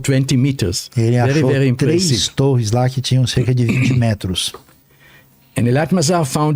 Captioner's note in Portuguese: limpando a garganta